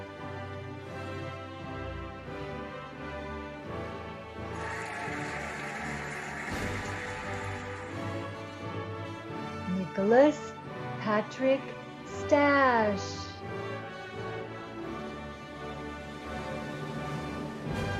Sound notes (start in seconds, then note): 4.5 cheering and applauding; 15.0 cheerful music